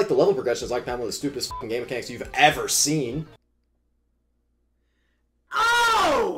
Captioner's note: beeps